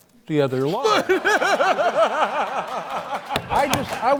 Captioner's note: laughter